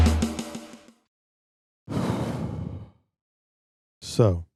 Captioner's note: deep Exhale